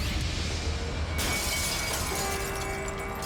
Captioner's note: glass shatters